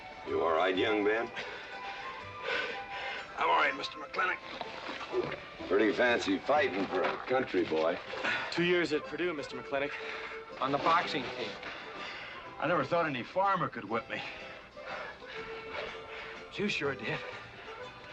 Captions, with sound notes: - You all right, young Ben? (panting) - I'm all right, Mr. McLintock. - Pretty fancy fighting for a country boy. - Two years at Purdue, Mr. McLintock, on the boxing team. - I never thought any farmer could whip me. But you sure did.